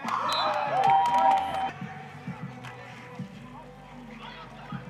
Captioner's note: cheering; whistle blows